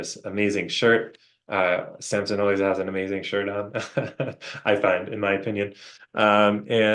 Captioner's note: chuckles